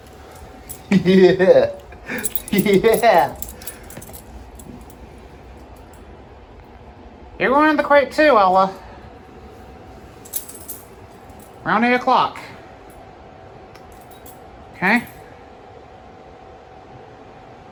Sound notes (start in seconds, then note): 0.8 Ella laughs